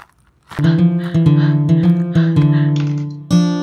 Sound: panting

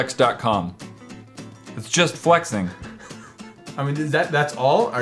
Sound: laughs under his breath

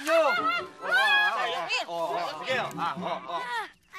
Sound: Andoy laughing

